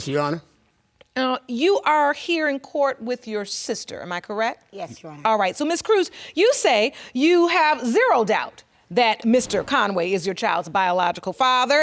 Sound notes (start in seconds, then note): none